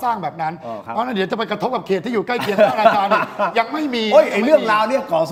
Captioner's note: laughs